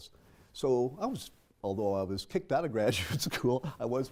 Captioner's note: laugh